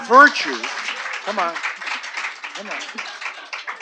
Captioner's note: applause